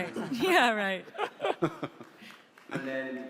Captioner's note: all chuckle; panel laughs